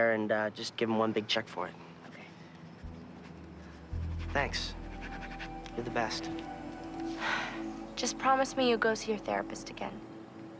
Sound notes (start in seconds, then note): 7.0 sighing